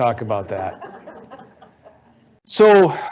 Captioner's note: audience laughing